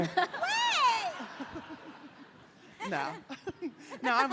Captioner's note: audience laughing